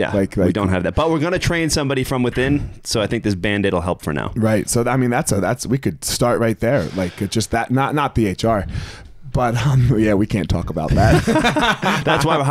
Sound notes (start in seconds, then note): 8.1 chuckles; 10.9 both laughing